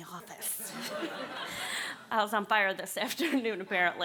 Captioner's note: laughter